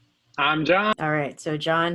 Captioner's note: podcast audio